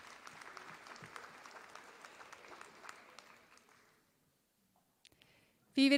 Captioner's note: applause